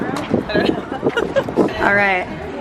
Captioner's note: laughing